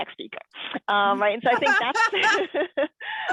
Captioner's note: laughs